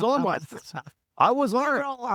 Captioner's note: laughing